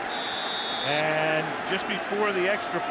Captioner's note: whistle